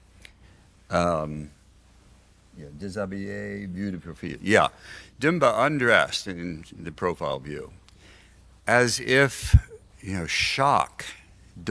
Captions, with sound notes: (speaking foreign language) Yeah, d'mba undressed in the profile view. As if, you know, shock,